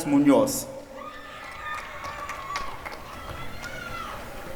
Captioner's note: applause and cheering